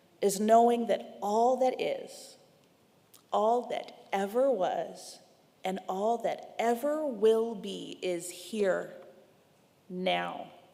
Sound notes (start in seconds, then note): none